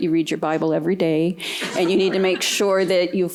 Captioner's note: laughter